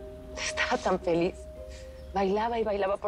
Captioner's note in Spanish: Sollozos